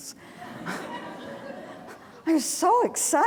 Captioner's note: audience laughing